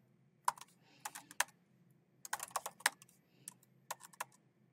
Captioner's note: keyboard clacking